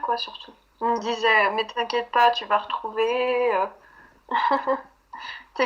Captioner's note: laughs